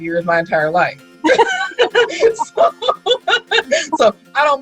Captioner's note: laughing